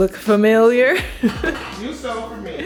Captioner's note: laughing